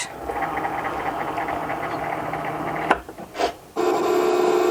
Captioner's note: machine buzzing